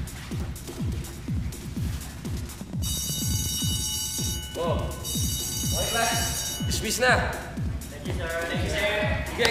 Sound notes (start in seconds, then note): 2.8 bell rings